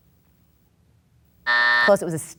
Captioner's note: buzzer sounds